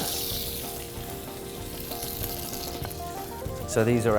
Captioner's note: sizzling